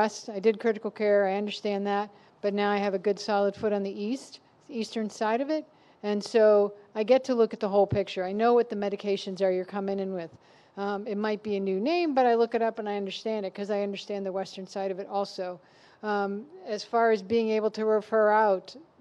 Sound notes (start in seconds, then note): none